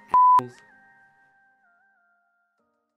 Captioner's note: beep